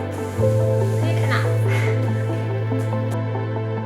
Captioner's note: chuckles